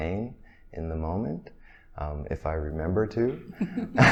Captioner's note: laughs